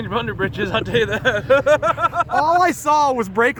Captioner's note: laughing